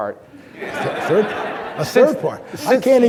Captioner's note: audience laughing